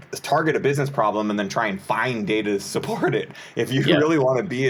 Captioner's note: chuckles